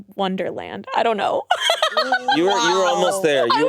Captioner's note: laughs